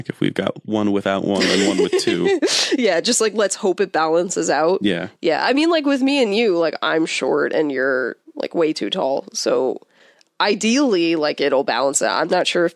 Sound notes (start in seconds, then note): 1.0 laughs